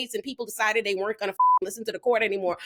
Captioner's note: beep